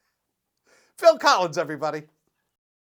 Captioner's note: speaks